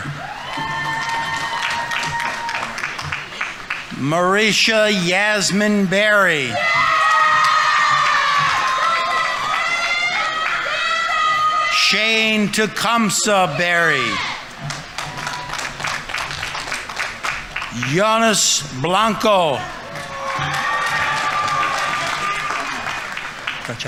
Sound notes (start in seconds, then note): 0.1 audience applauding; 0.1 audience members cheering; 6.7 audience applauding; 6.7 audience members cheering; 14.9 audience applauding; 20.0 audience applauding; 20.0 audience members cheering